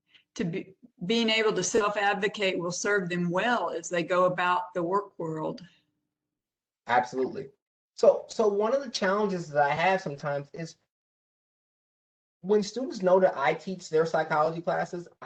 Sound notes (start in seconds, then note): 5.7 professor speaking